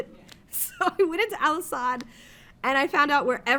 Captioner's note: laughs